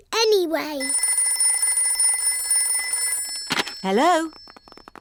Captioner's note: phone rings